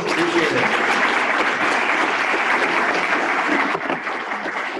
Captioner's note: applause